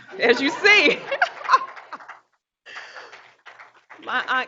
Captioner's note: group chuckles